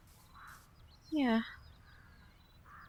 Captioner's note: crow calls